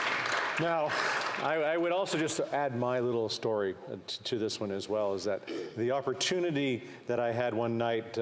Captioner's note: applause